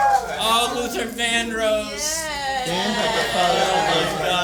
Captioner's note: applause